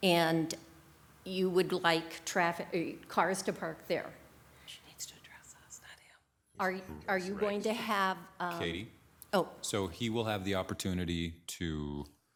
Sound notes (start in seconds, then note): 5.5 whispering